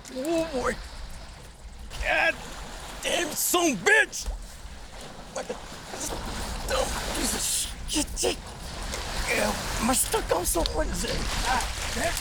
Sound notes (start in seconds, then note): 6.6 grunts